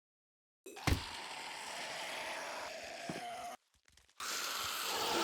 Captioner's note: demons growling